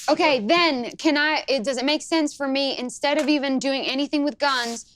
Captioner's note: none